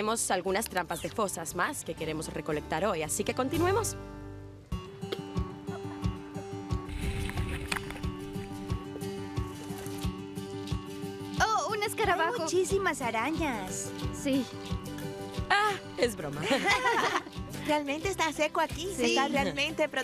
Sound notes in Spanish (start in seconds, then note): 16.4 riendo